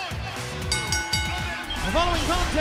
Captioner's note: bell ringing